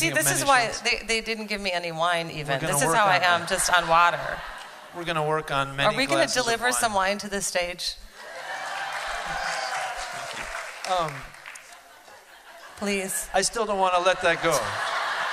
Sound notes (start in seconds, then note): 8.2 cheering